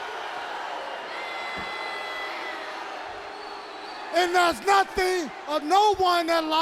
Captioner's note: crowd chatter